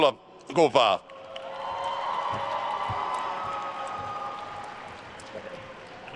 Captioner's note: attendees cheering and applauding